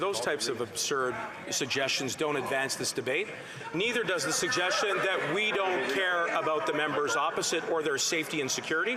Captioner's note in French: voix de l'interprète